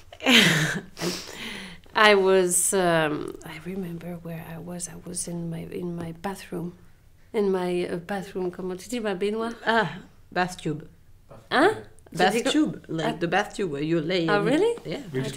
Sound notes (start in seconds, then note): 0.1 laughs; 9.0 speaks French